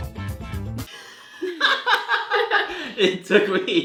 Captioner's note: laughs